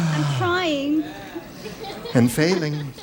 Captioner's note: public exhales